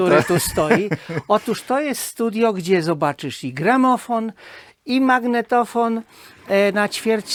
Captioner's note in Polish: śmiech